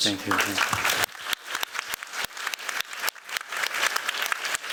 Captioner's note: applause